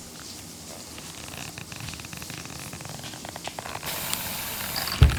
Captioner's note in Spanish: huesos crujiendo